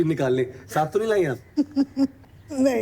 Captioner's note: laughter